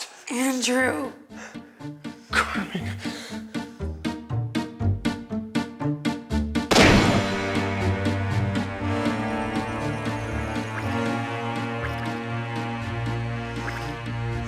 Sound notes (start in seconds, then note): 4.2 dramatic music; 6.5 tense music; 6.7 gun shot; 10.2 Andrew's blood squirts